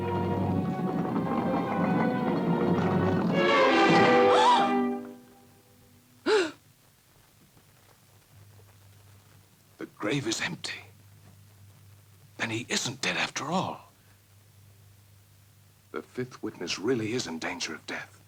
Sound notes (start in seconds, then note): 3.3 Corinne gasps; 3.3 jarring music; 6.2 Cleo gasps